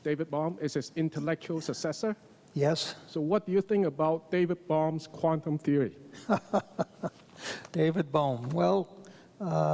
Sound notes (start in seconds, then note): 6.2 laughs